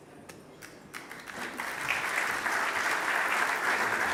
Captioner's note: applause